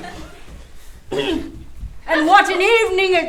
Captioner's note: masculine throat clear